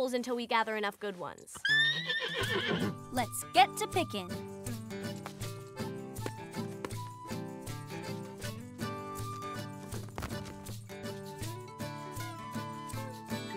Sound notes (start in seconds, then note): 1.6 horse whinnies